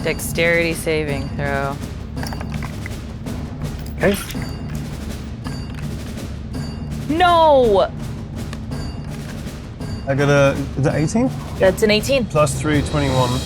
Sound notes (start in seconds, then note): 1.5 die rattling; 8.3 die rattling